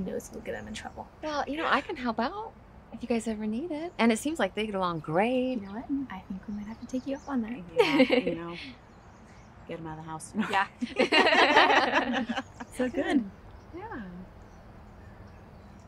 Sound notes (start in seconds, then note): 7.7 Ashley giggling; 10.4 women laughing